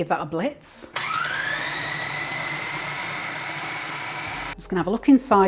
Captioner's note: machine whirring